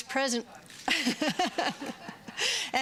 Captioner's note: laughter